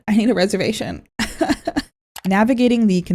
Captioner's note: pained laugh